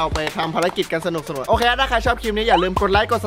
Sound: pat

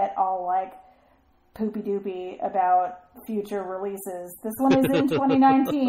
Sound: DJ laughs

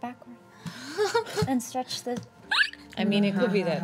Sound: laughing

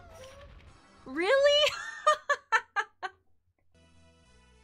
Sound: laughing

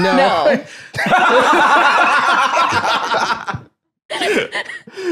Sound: both laughing

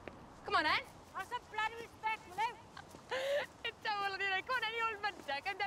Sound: emmy laughs, continues arguing

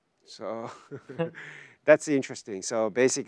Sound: both laughing

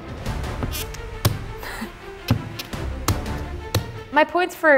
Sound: cutting coconut

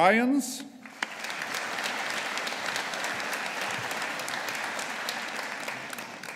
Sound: audience applauding

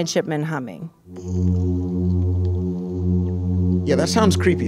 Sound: humming

